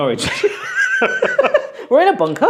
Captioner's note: both laugh